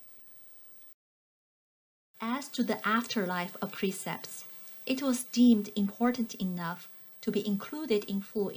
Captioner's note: click